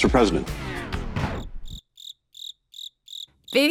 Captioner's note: cricket chirping